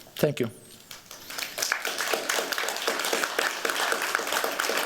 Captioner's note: applause